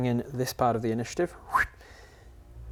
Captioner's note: fwip